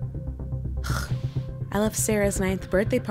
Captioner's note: scoffs